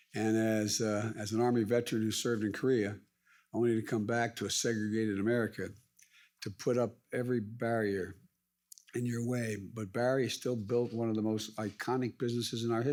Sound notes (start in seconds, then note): none